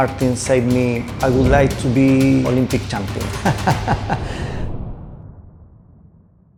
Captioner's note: laughing